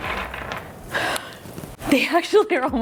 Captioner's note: gasps